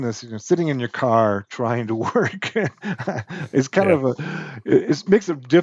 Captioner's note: laughs